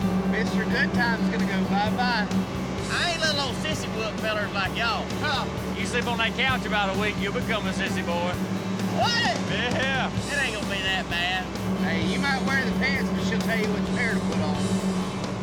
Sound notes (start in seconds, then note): 8.9 laughing